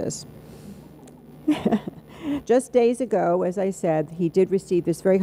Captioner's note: laughs